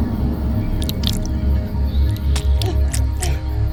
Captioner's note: intestines squelching; Donna choking